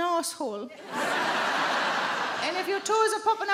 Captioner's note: audience laughing